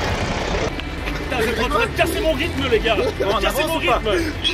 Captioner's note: laughs